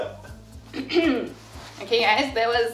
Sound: clears throat

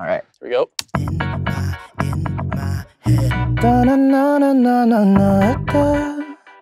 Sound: humming

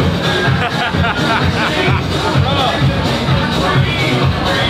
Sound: laughs

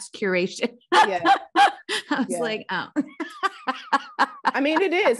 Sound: laughing

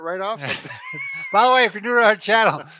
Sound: laughs loudly

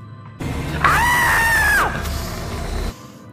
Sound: screaming

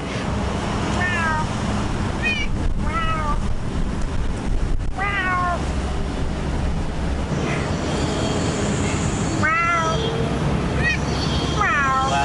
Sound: cat meowing and Human meowing

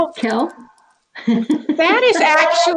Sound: laughs

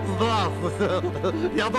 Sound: giggle Expression

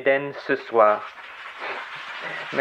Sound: applause

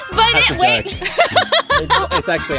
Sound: laughs

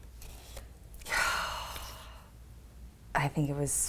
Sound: sighs

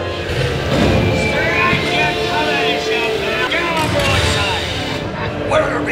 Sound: pirate-themed music playing; yelling and explosions

